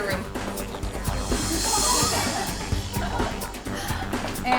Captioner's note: women laughing and talking at once